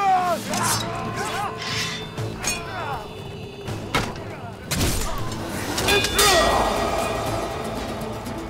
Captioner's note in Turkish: Dövüşme sesleri